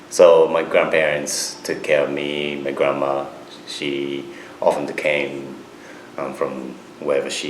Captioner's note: none